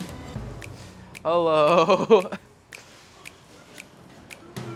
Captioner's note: laughs